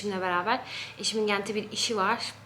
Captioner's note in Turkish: none